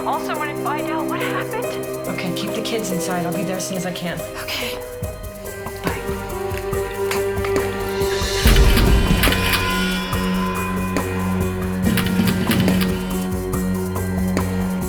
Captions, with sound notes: Could you call someone and find out what happened? - Okay, keep the kids inside. I'll be there as soon as I can. - Okay. - Bye. (camera shutter snapping) (suspenseful music)